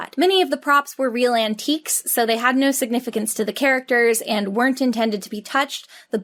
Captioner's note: none